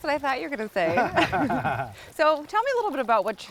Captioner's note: chuckling